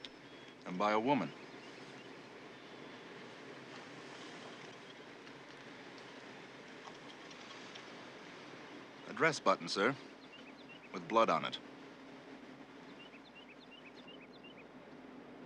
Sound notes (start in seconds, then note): none